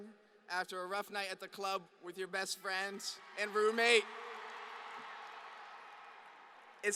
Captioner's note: applause